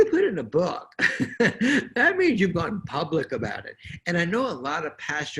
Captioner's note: chuckles